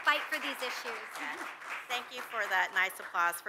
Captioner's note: audience applauds